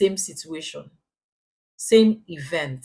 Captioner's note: paause